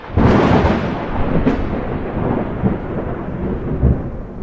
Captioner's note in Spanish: trueno